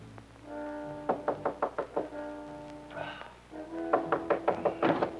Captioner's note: door knocking